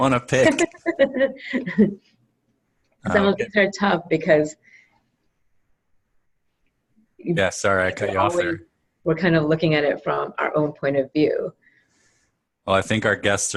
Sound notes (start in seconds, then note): 0.4 laugh